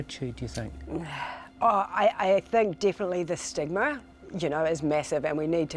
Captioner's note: sighs